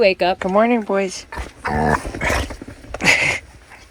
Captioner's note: dogs snorting; laughing